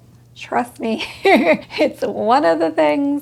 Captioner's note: laughs